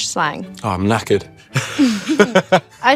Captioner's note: both laugh